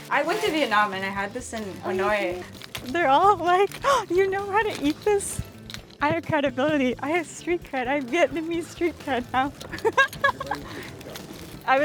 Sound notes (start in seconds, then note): 0.0 laughs; 4.1 gasp; 7.8 laughs